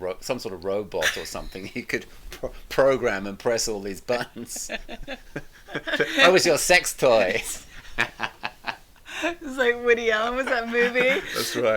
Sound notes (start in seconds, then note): 4.1 both laughing